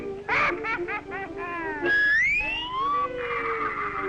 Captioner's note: laughing